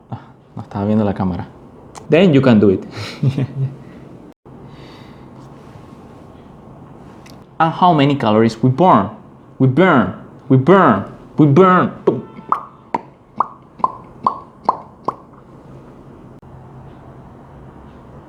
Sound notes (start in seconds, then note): 0.1 speaking in Spanish; 2.9 laughing; 12.0 mouth popping